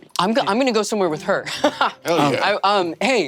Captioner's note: laughs